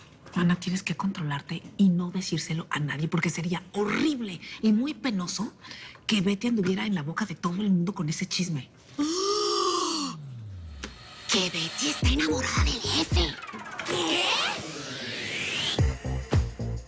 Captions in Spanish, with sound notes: MANA, TIENES QUE CONTROLARTE Y NO DECÍRSELO A NADIE PORQUE SERÍA HORRIBLE Y MUY PENOSO QUE BETTY ANDUVIERA EN LA BOCA DE TODO EL MUNDO CON ESE CHISME. [Grito ahogado] [Susurra] - ¡¿QUE BETTY ESTÁ ENAMORADA DEL JEFE?! - ¡¿QUÉ?!